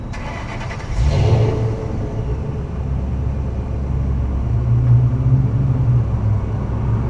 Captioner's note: someone’s truck starting behind me lol